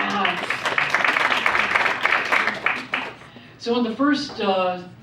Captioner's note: audience applauds